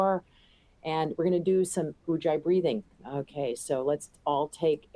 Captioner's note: non-english